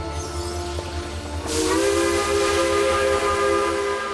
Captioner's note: train whistle blows